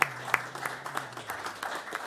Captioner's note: applause